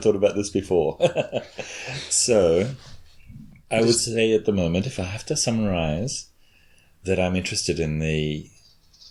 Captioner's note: chuckles